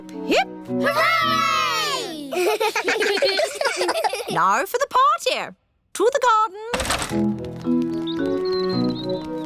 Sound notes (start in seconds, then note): 2.2 kids giggling